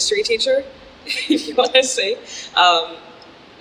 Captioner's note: music stops; laughs